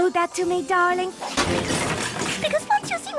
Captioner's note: crash